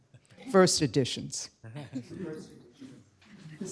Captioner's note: laughter